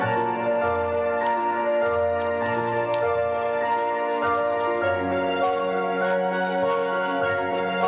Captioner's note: applause